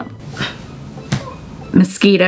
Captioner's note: gasping